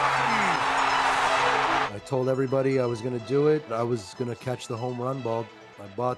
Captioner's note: cheers and Applause